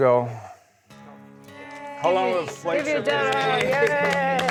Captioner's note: cheering